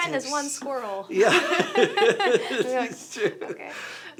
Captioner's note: laughs